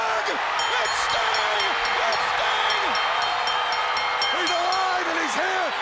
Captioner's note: bell ringing